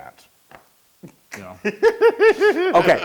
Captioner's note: laugh